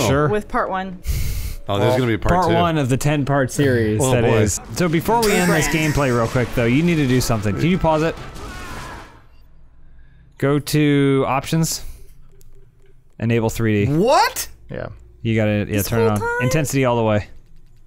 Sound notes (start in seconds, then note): none